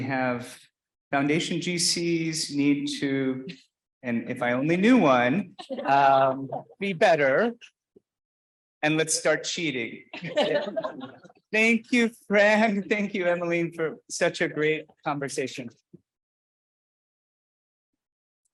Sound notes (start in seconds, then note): 10.1 laughing